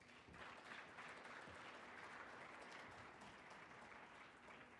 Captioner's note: audience applauding